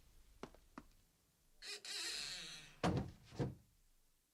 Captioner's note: SFX: door creaks open and closes